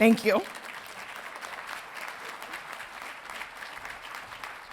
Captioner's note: audience applauding